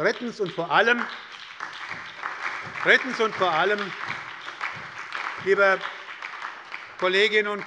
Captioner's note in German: Beifall bei der SPD